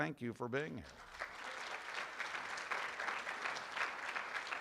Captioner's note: room applauds